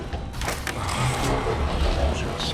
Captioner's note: groaning